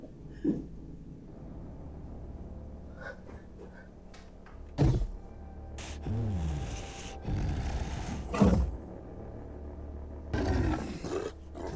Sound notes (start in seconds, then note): 4.5 door thudding; 5.8 creature growling